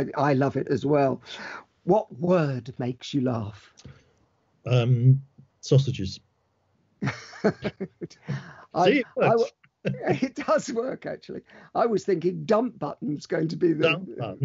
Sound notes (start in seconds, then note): 7.0 laughs